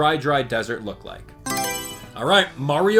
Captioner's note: Mario Selection Sound